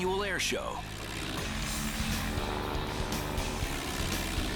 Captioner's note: engines roar